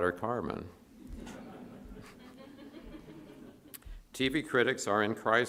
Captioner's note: audience laughs